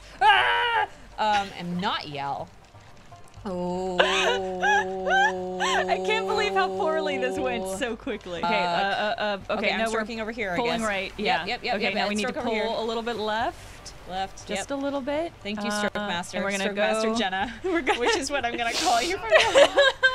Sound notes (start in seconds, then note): 3.5 laughing